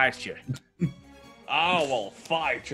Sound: laugh

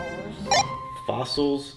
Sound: beeps

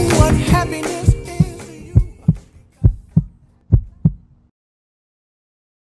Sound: pulsing Heartbeat Sound

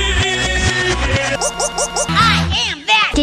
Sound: sped-up

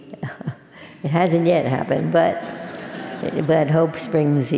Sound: laugh; laugh

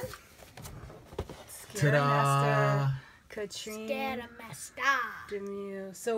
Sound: in spooky voice

